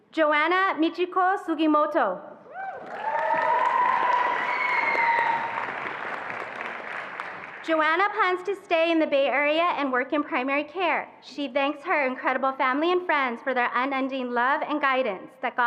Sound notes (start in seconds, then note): 2.6 attendees applauding and cheering